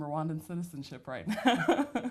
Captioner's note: laughs